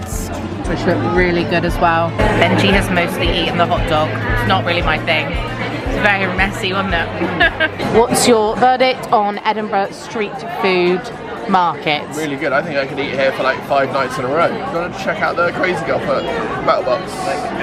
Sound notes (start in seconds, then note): 7.1 laughing